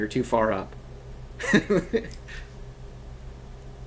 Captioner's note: laugh